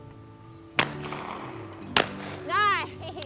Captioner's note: rifle banging